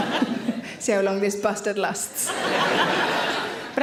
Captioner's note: audience laughs; audience laughs; laughs